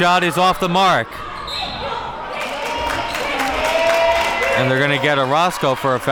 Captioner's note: whistle blows; audience cheering